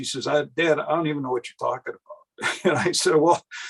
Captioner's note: laughs